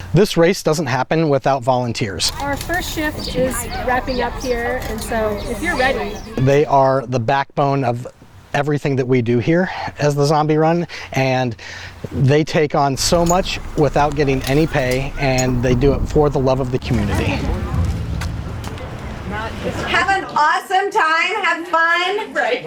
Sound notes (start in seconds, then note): 18.5 volunteers chattering